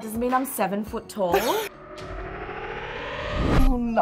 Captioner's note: laughing